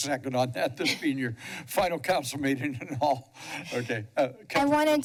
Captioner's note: laughs